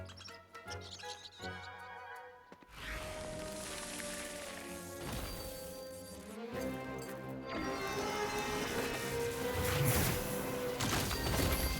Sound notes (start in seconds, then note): 0.6 chittering